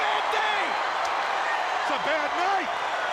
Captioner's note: crowd cheering